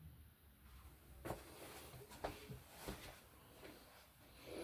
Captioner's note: footsteps shuffling